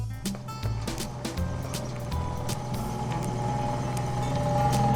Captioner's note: engines revving